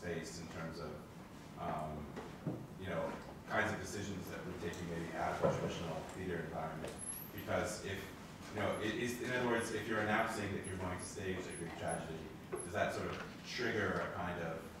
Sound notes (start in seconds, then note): none